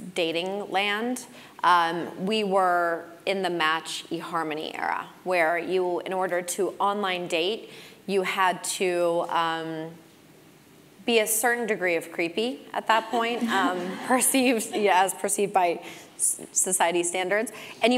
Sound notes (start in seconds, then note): 12.9 laugh